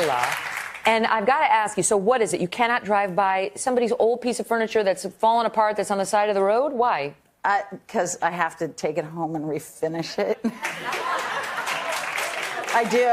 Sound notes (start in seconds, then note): 0.0 applause